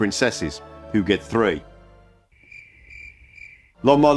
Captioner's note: crickets